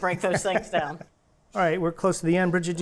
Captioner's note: chuckles